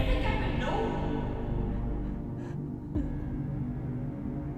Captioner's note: Ann gasping